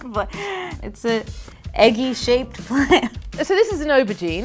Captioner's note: laughs; laughs